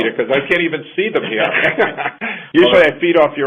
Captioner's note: both laugh